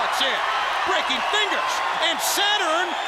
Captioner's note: crowd cheering